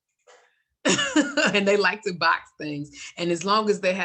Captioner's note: laughs